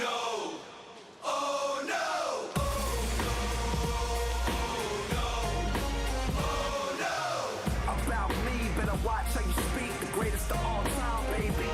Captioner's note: crowd cheering